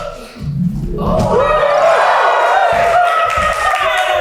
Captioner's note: audience cheers